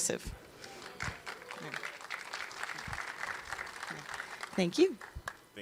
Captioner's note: audience claps